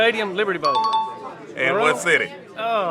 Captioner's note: chime dings